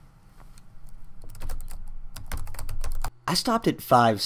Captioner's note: typing